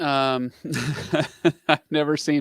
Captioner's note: laughs